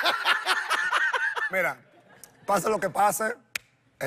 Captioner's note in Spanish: ambos ríen